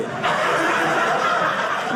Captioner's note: audience laughing